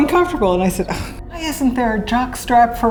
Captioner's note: scoffing